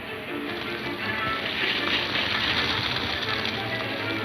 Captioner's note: fire crackling